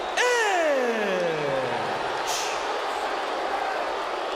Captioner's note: audience jeers